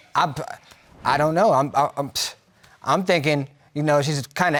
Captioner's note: stammering